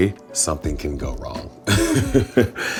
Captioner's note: laughs